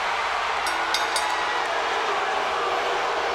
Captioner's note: bell rings; audience booing